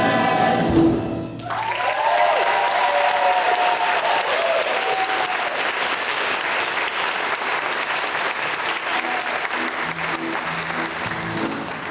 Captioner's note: applause